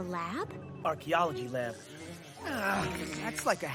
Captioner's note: bee buzzing